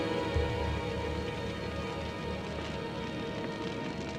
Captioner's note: menacing music; fire crackling